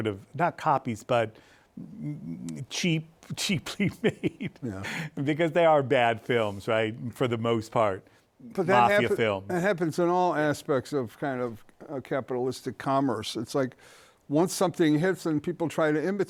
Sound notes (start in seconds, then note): 3.7 laughs